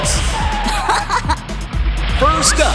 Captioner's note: laughing